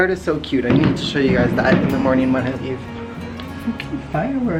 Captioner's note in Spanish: fuegos artificiales sonando afuera